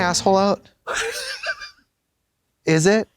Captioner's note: Katya wheezes